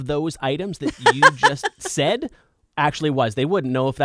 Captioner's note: laughing